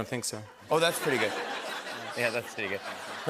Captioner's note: laughter